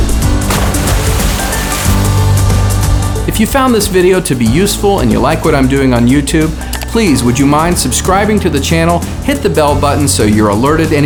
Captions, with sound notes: (water splashing) If you found this video to be useful and you like what I'm doing on YouTube, please, would you mind subscribing to the channel, hit the bell button so you're alerted